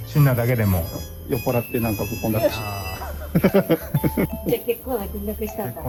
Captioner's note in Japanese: 笑い